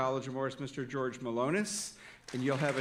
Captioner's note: audience applauding